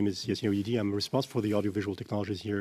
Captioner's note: speaking French